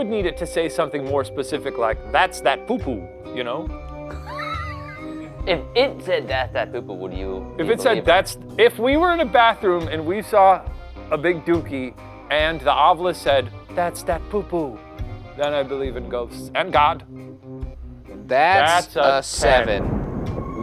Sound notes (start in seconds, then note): 4.5 laughs